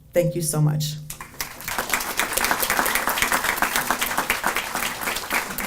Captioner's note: audience applauding